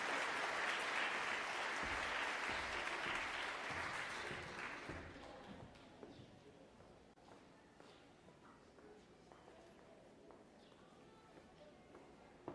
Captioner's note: applause